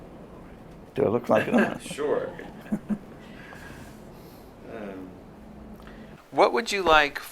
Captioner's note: laughter